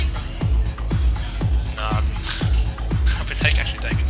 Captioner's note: laughing